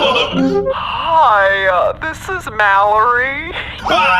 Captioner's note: voicemail plays